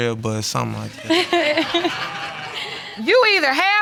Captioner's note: all laughing